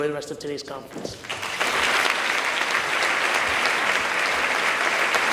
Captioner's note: audience claps